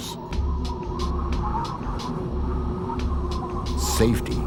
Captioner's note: wind howling